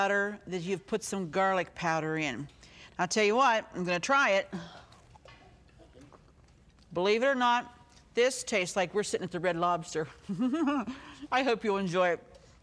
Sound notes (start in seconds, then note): 6.0 chewing; 10.2 laughing